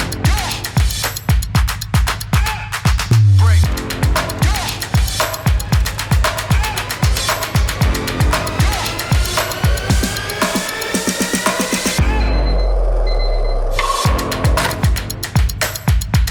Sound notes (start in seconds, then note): 12.0 alarm clocking beeping; 13.0 wheels rolling